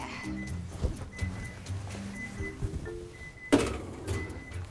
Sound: oven timer beeping

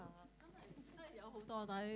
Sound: Cantonese

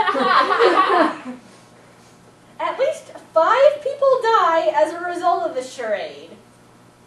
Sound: audience laughing

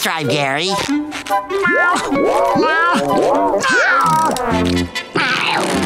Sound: meowing

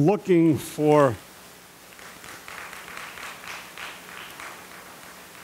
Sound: audience applauding

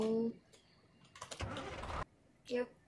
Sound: keyboard sounds

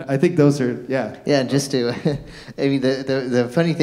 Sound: chuckles

